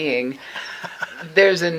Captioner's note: laughing